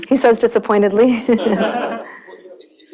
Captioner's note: laughter